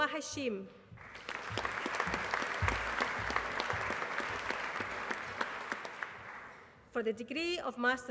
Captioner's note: applause